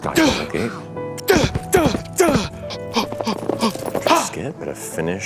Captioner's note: struggle sounds continue